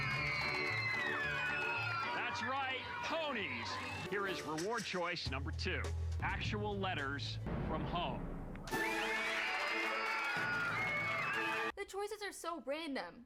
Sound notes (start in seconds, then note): 0.0 cheering; 8.7 louder cheering